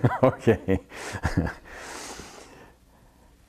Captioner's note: laughs